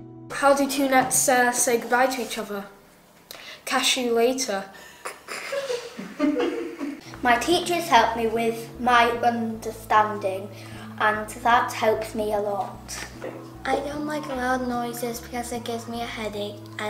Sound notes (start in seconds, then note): 5.0 laughing